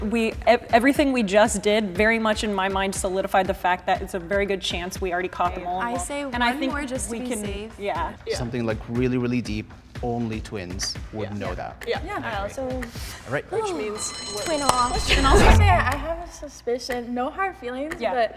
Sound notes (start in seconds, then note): none